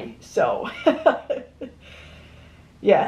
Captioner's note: laughs